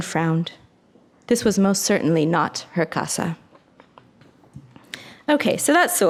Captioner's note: speaks in foreign language